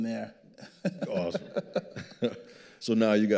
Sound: laughing

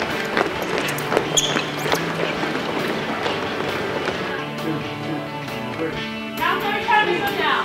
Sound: feet hitting ground

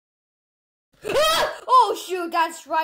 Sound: screams

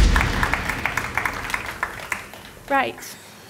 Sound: upbeat music; audience applauds

